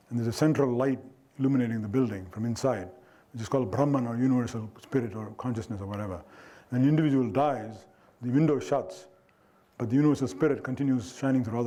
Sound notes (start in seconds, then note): 4.1 foreign language